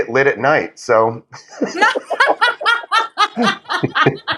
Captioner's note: laugh